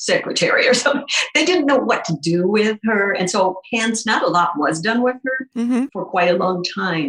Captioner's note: chuckles